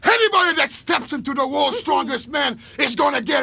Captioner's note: Jimmy chuckling